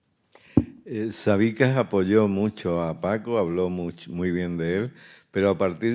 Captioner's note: speaking in Spanish